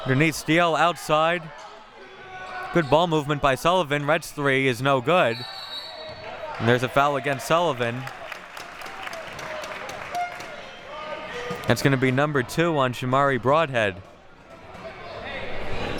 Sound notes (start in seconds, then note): 5.3 whistle blowing; 8.6 audience applauding